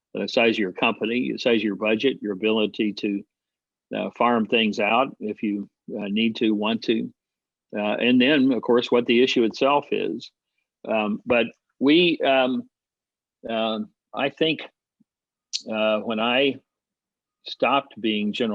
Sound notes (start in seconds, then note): none